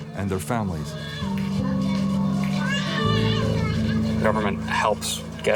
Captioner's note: baby crying